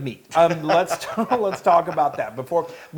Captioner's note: laugh